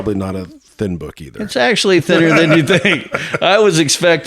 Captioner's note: laughs